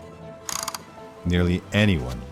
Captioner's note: switches clicking; tablet holder whirs